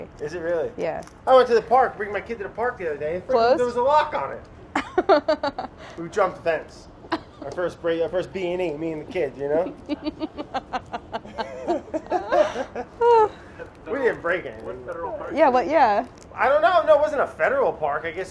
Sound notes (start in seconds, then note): 9.0 both laughing